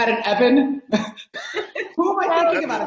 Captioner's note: laughing